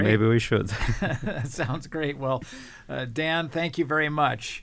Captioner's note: laugh